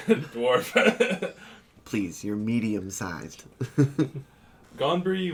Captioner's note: chuckles; chuckles